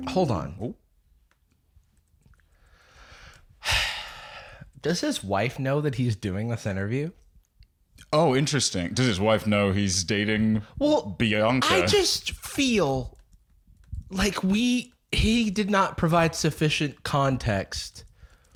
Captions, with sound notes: - Hold on. - Oh? (sighs) Does his wife know that he's doing this interview? Oh, interesting. Does his wife know - he's dating Bianca? - Well, I just feel... like we – he did not provide sufficient context,